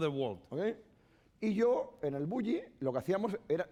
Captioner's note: speaking spanish